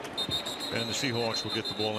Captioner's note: whistle